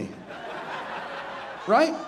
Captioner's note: audience laughing